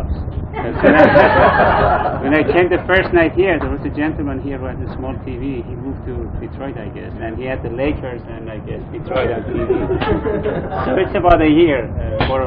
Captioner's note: Gülüşmeler